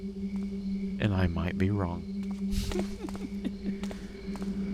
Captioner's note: laughs